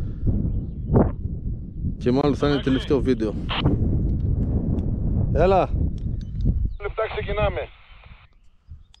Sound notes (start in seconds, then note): 3.8 radio talk